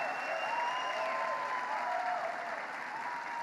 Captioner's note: applause